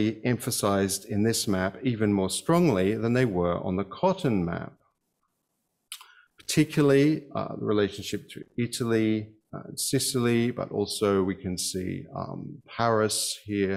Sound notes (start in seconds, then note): none